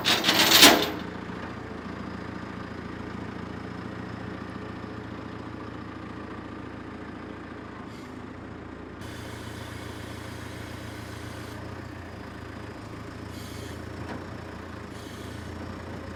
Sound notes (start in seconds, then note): 0.0 chains clanking